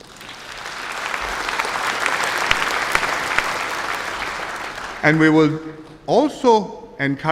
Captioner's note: applause